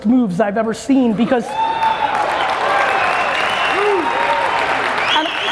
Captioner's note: audience applauds